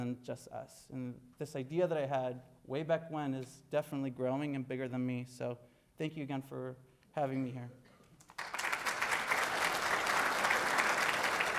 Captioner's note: audience applauding